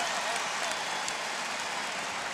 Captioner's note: crowd cheers